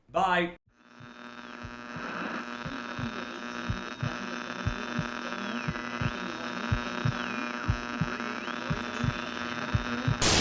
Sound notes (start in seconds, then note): 1.1 static buzzing